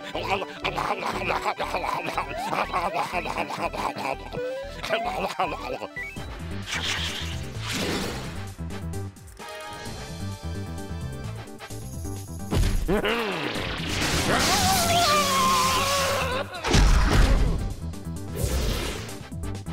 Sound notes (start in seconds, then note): 0.8 munching loudly; 6.7 whooshing; 12.8 chuckles; 13.5 blast; 15.1 howls; 18.0 whoosh